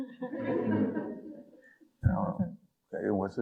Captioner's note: audience laughing